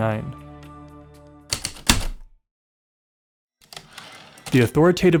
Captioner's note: typewriter keystroke, return slide